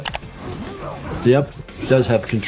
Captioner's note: screen clicking; characters grunting